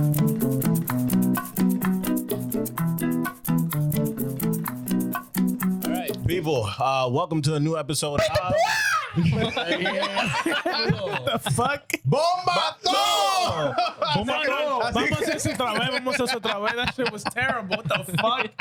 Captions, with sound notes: People, welcome to a new episode of- (Laughter) Bon baton! (Laughter) That shit was terrible, what the fuck?